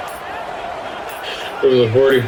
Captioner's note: crowd Noises